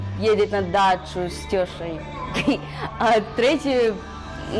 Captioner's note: делает фэйковый акцент